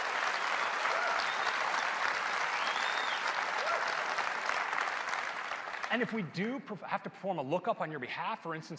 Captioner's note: cheers and applause